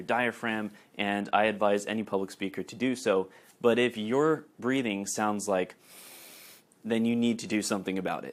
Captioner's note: sniff